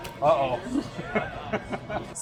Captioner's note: laughs